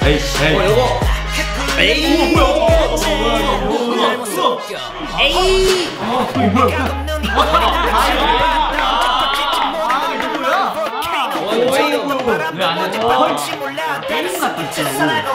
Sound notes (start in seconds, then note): 10.1 applause